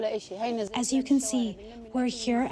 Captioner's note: through translator